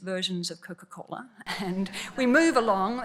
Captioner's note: laughs